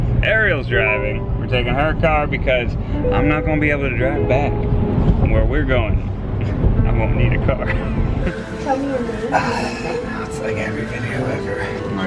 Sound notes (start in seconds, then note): 9.2 laughs